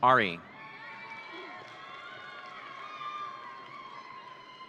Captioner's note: audience cheering